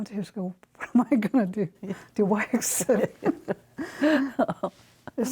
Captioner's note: laughter